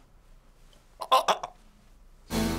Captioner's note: gags